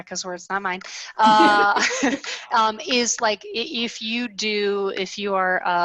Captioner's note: laughs